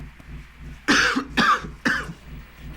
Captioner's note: coughs